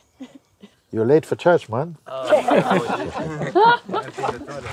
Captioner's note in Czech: smích